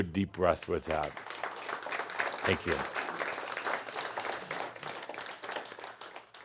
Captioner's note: audience applause